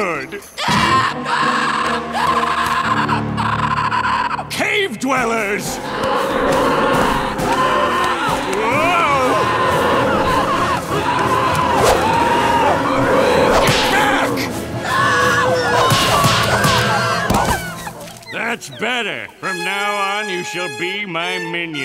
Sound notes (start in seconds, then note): 0.2 screeching; 5.6 screeching; 15.3 whimpering